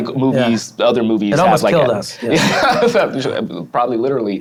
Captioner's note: laughs